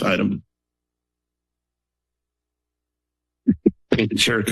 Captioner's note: silence